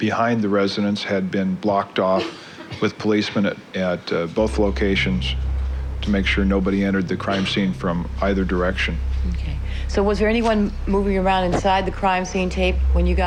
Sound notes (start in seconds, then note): 4.9 background cough